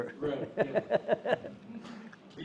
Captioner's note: laughing